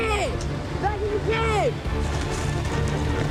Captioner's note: indistinct chatter; thrilling music